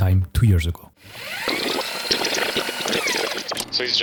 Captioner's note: VHS rewind noise